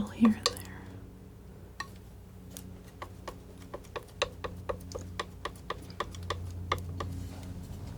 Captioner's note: tapping